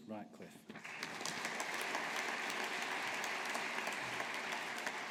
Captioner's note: audience applauding